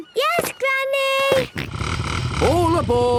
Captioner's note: snort